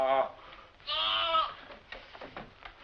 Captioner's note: bleating